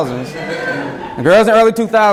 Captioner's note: students laugh